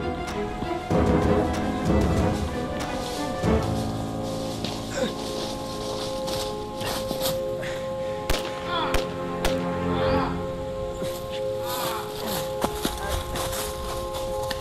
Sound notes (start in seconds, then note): 3.1 Allan groaning; 3.1 footsteps rustling; 8.7 Walter groaning; 8.7 gunshots booming faintly